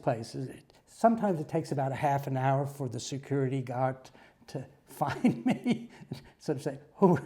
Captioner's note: laugh